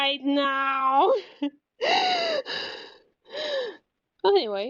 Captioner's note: heavy breathing